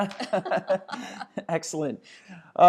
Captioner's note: laughing